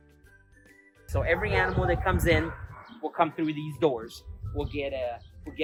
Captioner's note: dogs barking in the backgroud